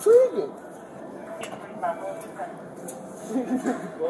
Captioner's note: radio chatter